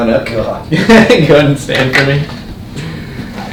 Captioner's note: laughing